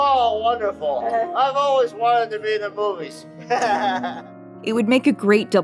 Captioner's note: laughter